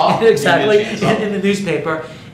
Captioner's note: laughs